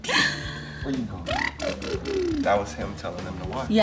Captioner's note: blows raspberry